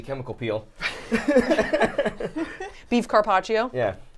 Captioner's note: laughing